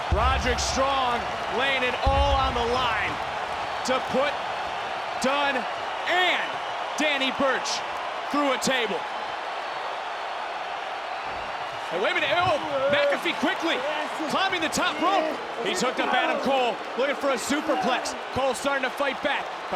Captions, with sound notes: Roderick Strong laying it all on the line to put Dunne and Danny Burch through a table. (crowd cheers) Now wait a minute. McAfee quickly climbing the top rope. He's hooked up Adam Cole, looking for a Superplex. Cole's starting to fight back.